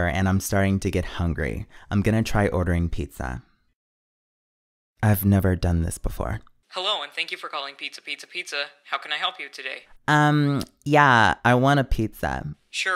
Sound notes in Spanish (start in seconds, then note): 6.7 Voz en off; 12.8 Voz en off